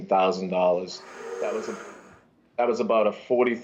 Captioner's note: audience gasps